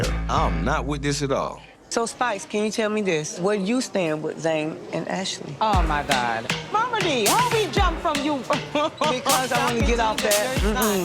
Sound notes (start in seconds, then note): 8.5 laughing